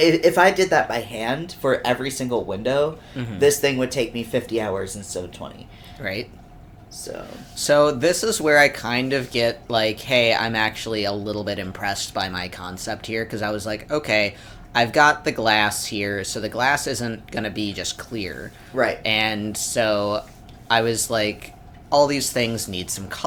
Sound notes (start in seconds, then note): none